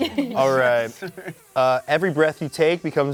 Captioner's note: laughs